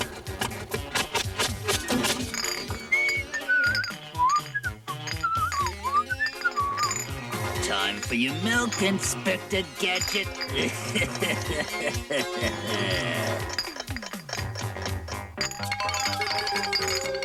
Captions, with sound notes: - [WHISTLING] TIME FOR YOUR MILK, INSPECTOR GADGET. HEH HEH HEH HEH HEH. [TICK TICK TICK]